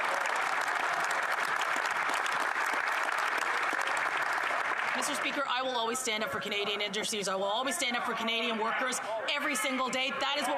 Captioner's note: some Applause